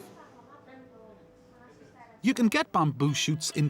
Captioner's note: indistinct chattering